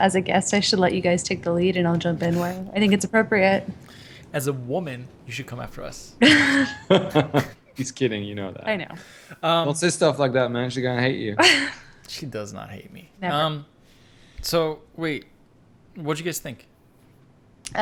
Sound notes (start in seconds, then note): 6.2 they both laugh; 11.4 she laughs